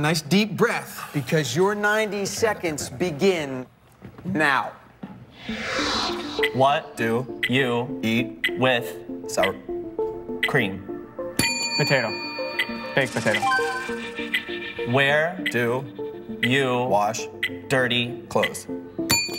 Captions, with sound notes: Guys, take a nice deep breath, because your 90 seconds begin now. What do you eat with sour cream? [bell dings] POTATO. Baked Potato. Where do you wash dirty clothes?